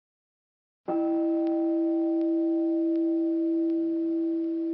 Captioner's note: meditation chime